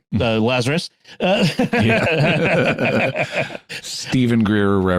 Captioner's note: laughing